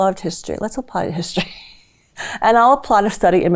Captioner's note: laughs